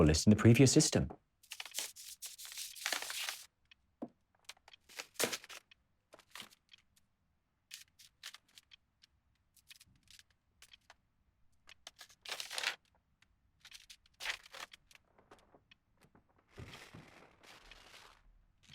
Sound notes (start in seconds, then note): 1.4 paper rustling; 11.9 paper rustling continues